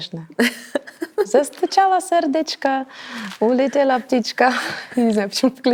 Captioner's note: with Georgian accent